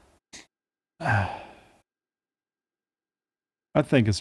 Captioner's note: sigh